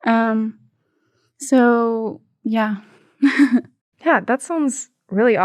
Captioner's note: chuckling